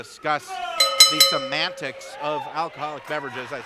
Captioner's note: bell dinging